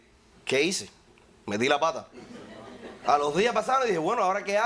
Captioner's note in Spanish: Risas